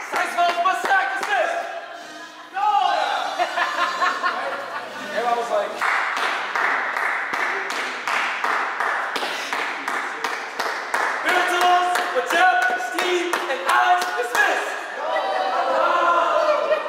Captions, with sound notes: - Saxophones plus Zach Dismissed! - Noles! - [Laughter] [Extended Clapping as if Drum Majors Don't Know Who They Are Dismissing] -Baritones but Jeff Steve and Alex dismissed - Noles!